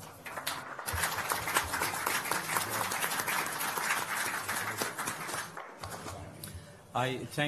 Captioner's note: applause